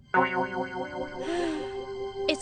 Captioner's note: sighing